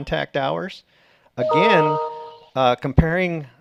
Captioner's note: computer tone dings